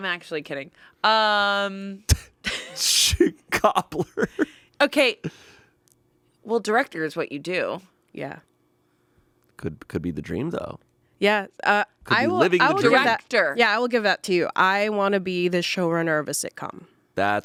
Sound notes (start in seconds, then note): 2.2 laughs